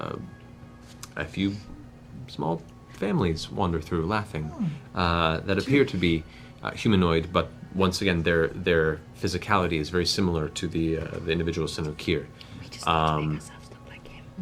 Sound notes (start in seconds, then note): none